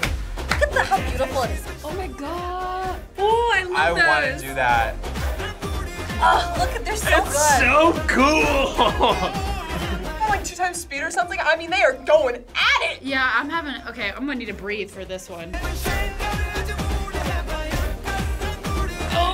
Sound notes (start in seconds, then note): 9.5 laughs; 15.7 upbeat music